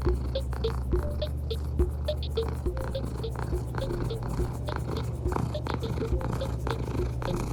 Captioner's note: Cauliflower purring